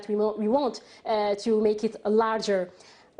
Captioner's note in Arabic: تتحدث الإنجليزية